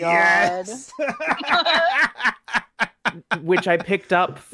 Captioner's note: both laughing